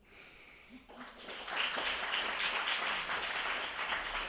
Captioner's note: attendees applauding